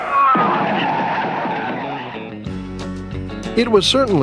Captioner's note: tribe yelling